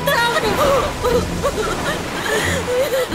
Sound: Roopa crying

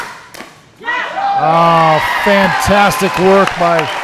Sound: audience cheering

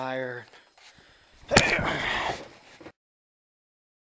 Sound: thud

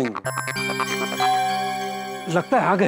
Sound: doorbell rings

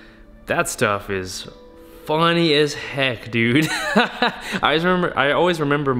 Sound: laughs

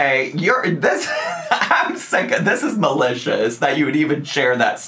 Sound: laughs

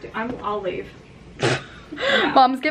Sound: laughs

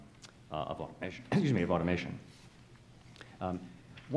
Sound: clears throat

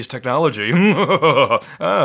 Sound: laughing

